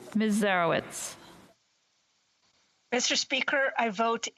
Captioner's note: speaking French